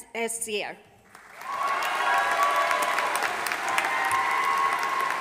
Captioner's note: audience applauding